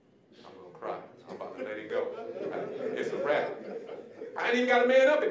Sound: audience laughing

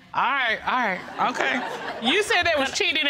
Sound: audience laughing

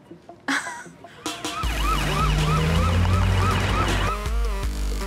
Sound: laughter; sirens

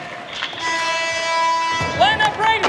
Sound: buzzer

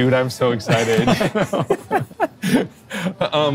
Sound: laughs

